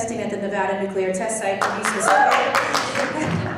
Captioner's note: clapping drowns out speaker